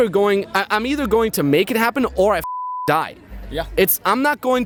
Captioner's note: beep